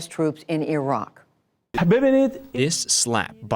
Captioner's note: through translator